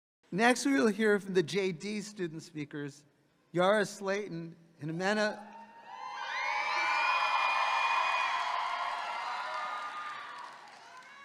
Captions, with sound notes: - Next, we will hear from the JD student speakers， Yara Slaton and Ximena... (audience cheering)